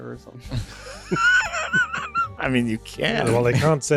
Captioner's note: laughter